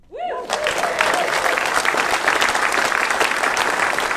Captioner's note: audience applauding